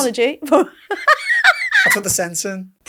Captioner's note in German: lacht